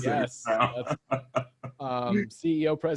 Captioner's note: laughs